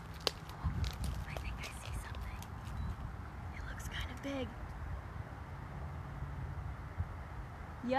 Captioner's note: whispers